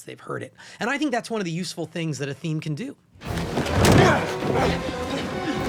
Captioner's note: grunting